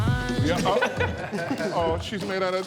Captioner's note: group chuckling